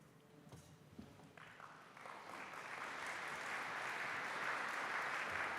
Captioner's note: applause